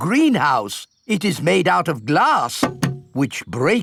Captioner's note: knocks